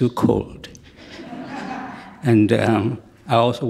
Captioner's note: audience members laugh